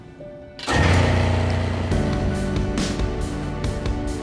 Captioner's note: loud mechanical noise